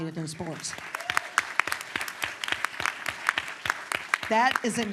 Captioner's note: applause